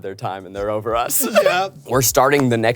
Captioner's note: laughs